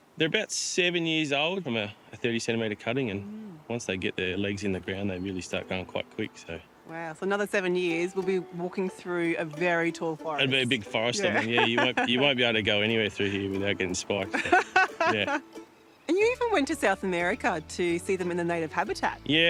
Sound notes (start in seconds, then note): 11.2 laughs; 14.3 laughs